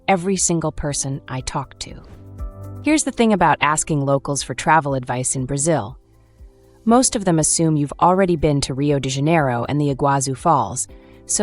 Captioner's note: thoughtful